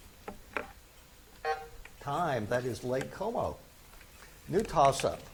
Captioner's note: buzzer buzzes